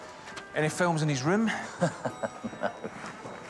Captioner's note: chuckles